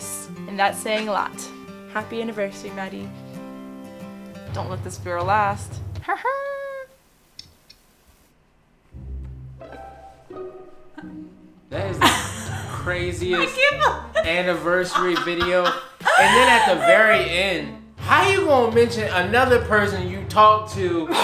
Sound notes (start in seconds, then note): 3.4 happy music; 5.8 laughs; 12.0 laughs; 20.9 laughs